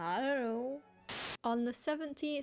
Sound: static

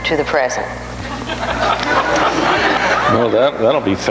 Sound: audience laughs

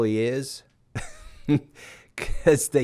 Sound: chuckling

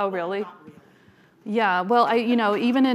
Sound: speaking faintly off mic

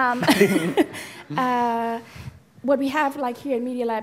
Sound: laughing

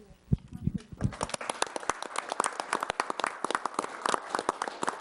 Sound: group applauds

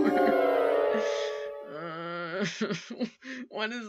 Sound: crying

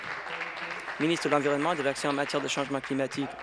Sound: applause

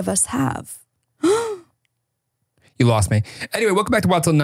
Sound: gasps

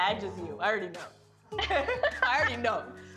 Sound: both laugh

